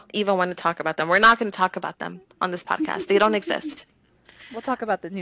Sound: laughter

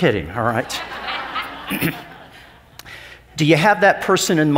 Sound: crowd laughs

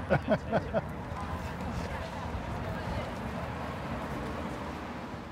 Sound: laughter; street noise

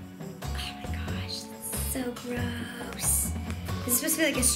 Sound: whispers

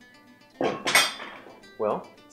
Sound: weights clank

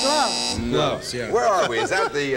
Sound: buzzer

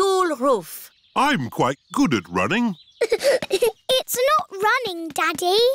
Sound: giggling

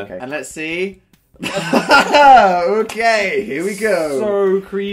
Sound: laughs

